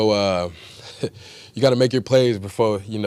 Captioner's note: laughs